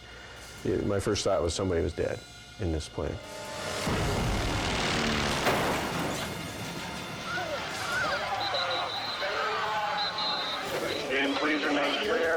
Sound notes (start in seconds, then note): 3.0 aircraft humming and crushing